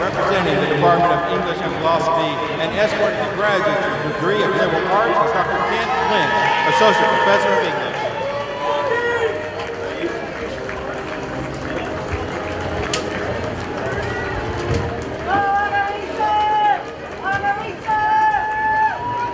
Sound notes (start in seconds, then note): 9.9 professors applaud